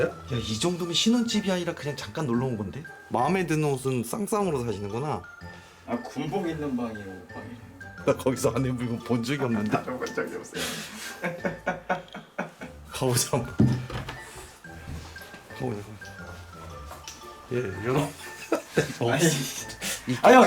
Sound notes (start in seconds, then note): 10.4 laugh; 15.0 the sound of the music box